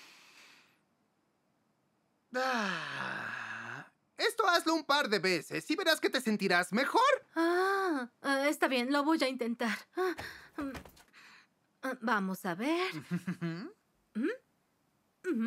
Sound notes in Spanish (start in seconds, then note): 0.3 Dr. Ruster y Kori inhalan; 2.4 Dr. Ruster y Kori exhalan